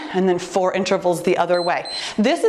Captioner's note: timer beeps